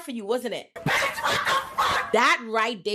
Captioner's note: laughing